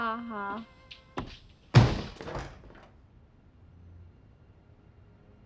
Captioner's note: door banging